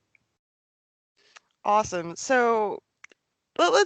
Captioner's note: none